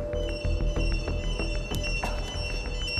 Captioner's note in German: Alarmsignal